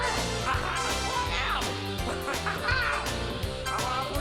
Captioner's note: צווחות